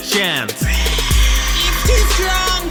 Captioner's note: whisper screams